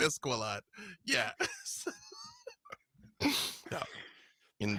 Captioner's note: laughs